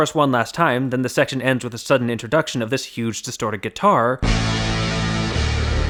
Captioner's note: bang